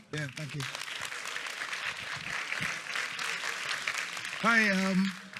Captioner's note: applause